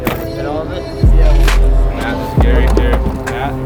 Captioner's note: pat